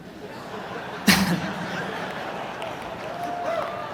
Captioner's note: audience laughs